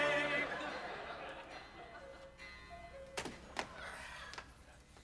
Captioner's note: cuckoo clock noise